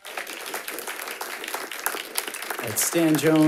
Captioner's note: audience applauds